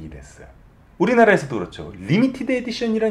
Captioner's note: Korean